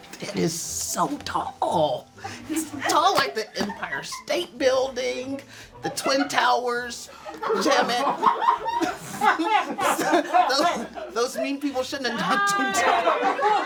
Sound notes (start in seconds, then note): 7.1 stifled laughter; 12.1 offscreen laughter